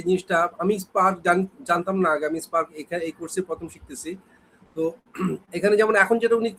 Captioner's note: clears throat